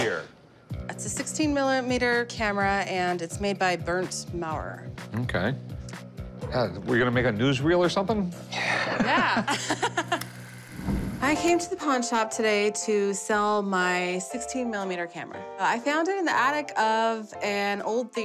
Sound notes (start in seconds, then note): 8.0 laughs